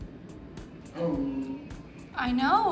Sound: Gus growling

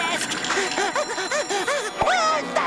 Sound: panting

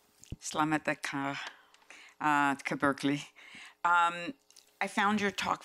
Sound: speaking foreign language

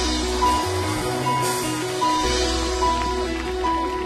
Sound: audience cheers

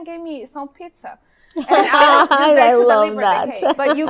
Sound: laughs

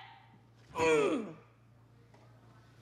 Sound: grunts

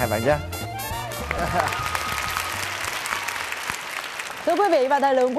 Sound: claps

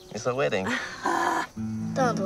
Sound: laughing

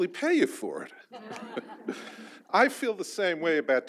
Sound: audience laughs

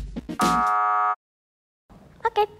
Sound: buzzer sounds

